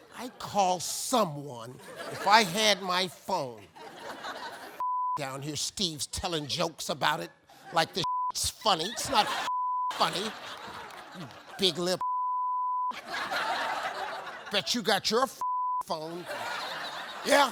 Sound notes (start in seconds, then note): 4.0 audience laughing; 5.1 beep; 9.3 beep; 12.0 beep; 12.8 audience laughing; 15.4 beep; 15.9 audience laughing